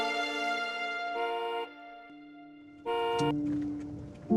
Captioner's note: horn honking